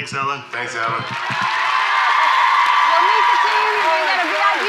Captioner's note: audience cheers